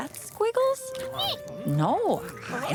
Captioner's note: squeak